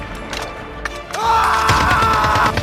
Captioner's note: scream